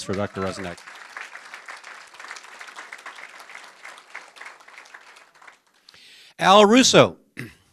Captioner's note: applause